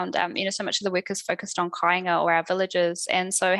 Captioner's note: non-english speech